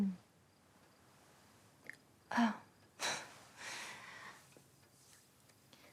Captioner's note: sighs; laughs